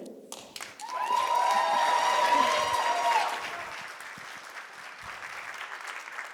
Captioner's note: crowd cheering